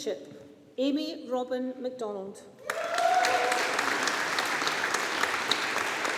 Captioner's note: audience applauding